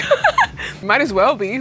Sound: laughing

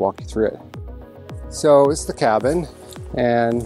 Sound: footsteps pattering

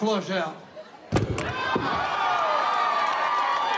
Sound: microphone thuds; cheering

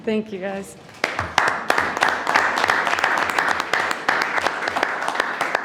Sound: trustees applaud

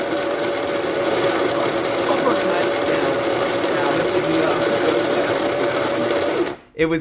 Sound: coffee grinder; coffee grinder intensifies

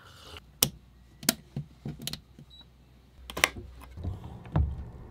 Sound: switches clicking

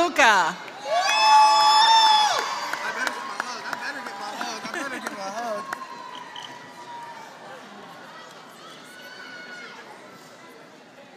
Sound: applause

